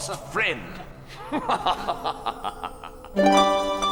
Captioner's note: laughing; lyre playing